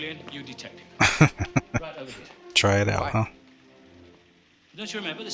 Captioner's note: laughing